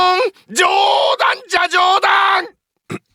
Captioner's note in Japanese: 叫び声